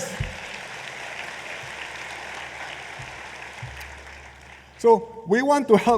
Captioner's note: applause